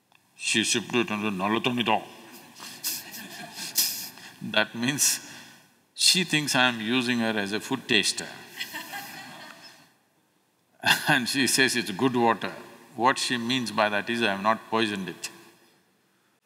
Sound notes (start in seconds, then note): 2.6 laughs; 8.5 few Laugh